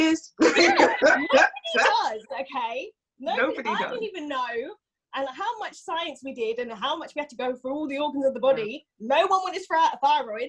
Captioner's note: laughs